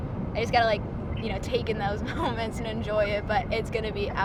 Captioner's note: chuckles